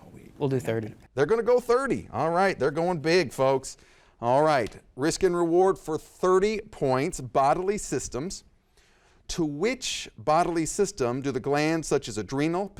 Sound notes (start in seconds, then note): none